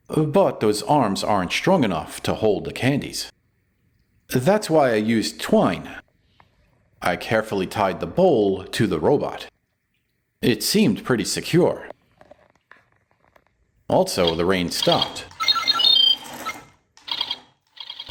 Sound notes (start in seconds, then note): 14.1 happy robot sounds!